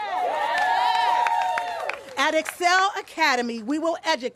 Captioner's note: applause